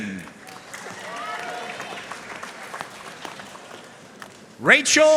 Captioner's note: audience cheering and applauding